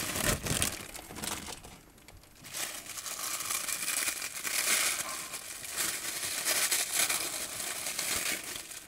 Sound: paper crinkling

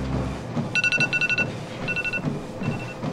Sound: alarm clock

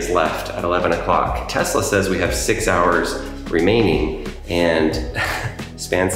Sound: chuckles

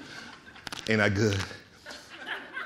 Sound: audience laughing

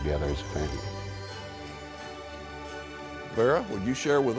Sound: transition chiming

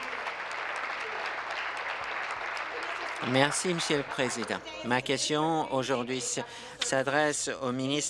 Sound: applause

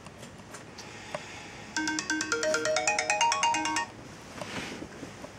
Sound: ring

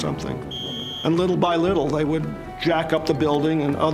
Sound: whistle blows

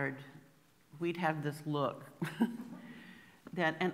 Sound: laughs

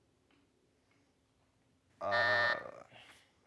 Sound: buzzer

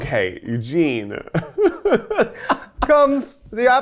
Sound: laughing

